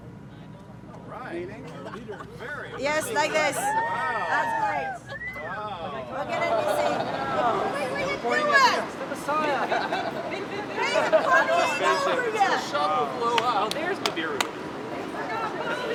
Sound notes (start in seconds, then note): 1.4 laughs; 3.2 cheering; 9.2 laughter